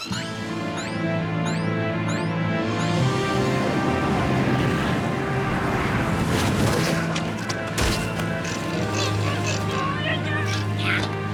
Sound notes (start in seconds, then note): 2.8 wind howling; 8.4 grunting